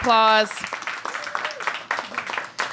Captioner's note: applause